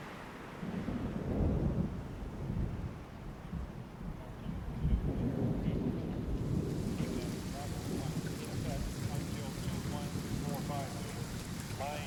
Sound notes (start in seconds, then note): 0.0 thunder rumbles; 0.8 wind whips, loud thunder; 6.7 rain patters, thunder rumbles